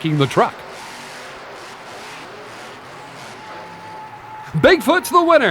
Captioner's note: engine revs